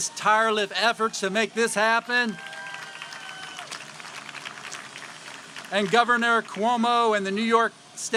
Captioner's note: applause